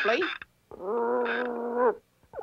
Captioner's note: howling